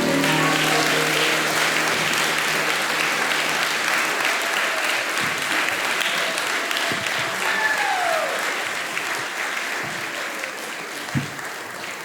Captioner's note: applause